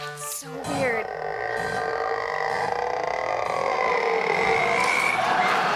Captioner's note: creaking noise